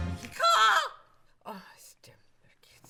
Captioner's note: screeches